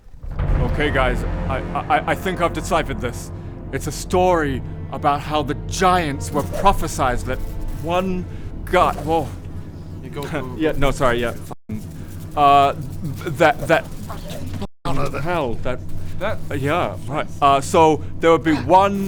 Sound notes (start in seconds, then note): 9.3 non-stop buzzing